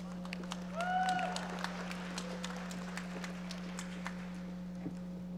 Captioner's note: audience applauding